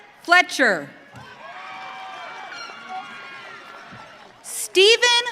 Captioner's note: audience cheering